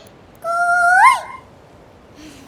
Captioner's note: mimicking cuckoo's voice